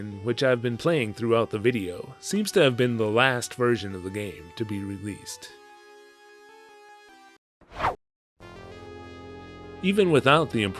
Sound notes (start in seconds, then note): 7.7 whoosh